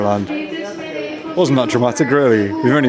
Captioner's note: overhead airport announcement